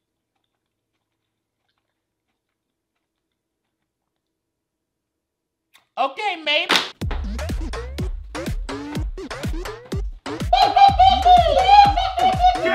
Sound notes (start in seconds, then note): 6.4 snaps fan; 7.0 upbeat music; 10.4 laughs hysterically